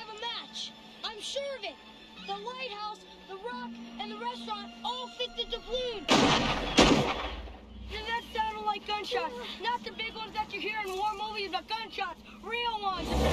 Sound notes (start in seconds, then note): 7.9 gunshots